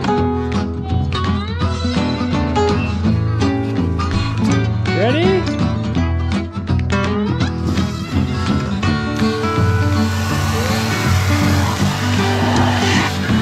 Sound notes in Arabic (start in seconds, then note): 0.2 موسيقى الآلات اللطيفة; 9.8 رش الماء